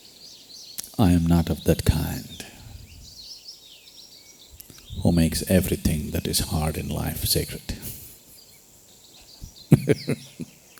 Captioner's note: laughs